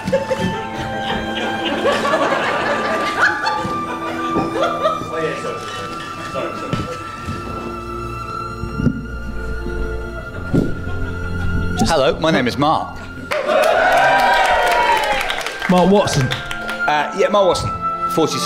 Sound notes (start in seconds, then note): 13.2 audience whoops and applauds